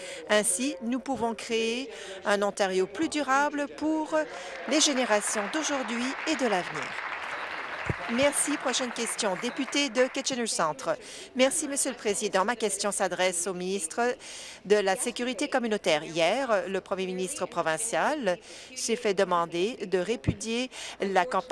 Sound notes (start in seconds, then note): 7.8 applause